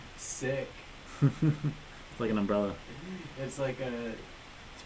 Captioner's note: laughs